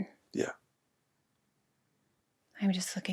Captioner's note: none